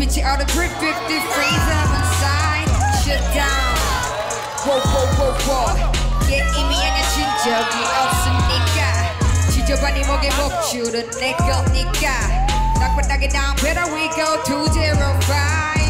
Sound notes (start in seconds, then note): 7.0 all shout